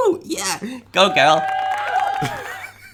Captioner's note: cheering and clapping; laughing